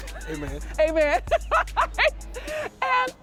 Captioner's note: laughs